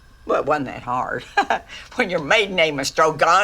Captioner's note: laughs